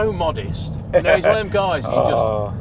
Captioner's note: laughs